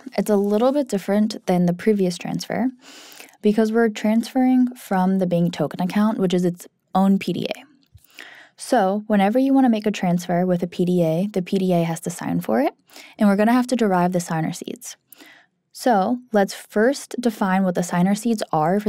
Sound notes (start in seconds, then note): none